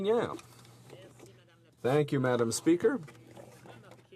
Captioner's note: speaking French